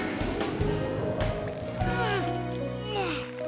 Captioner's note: grunting